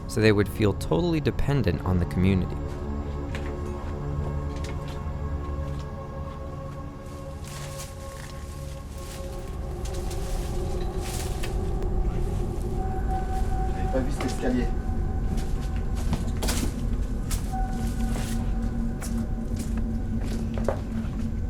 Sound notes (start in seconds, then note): 3.2 uneasy music continues; 14.1 speaks French; 18.7 uneasy music